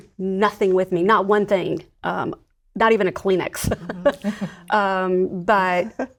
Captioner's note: laughs